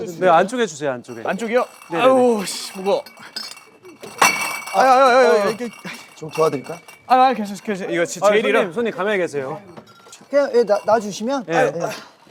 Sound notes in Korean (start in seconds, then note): 3.7 부딪히는 소리